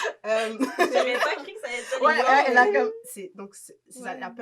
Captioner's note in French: rires; rires